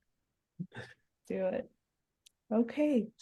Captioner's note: laugh